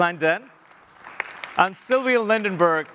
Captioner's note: audience applauds